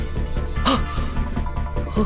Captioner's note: gasp